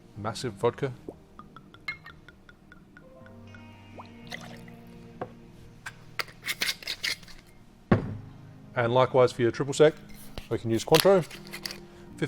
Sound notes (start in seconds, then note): 1.3 glugging; 4.0 liquid pours; 5.8 cap screws